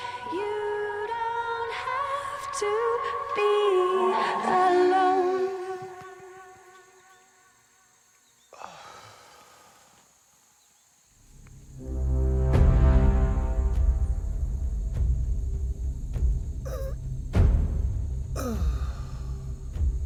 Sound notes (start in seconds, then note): 11.7 dramatic music; 15.1 Walt gasping